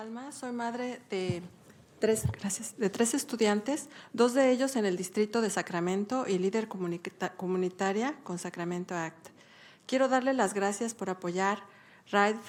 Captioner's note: speaking spanish